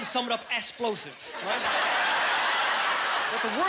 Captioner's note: laughing